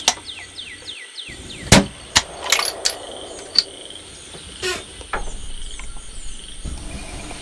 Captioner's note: flashback: distant rifle shot rings out and the bolt action closes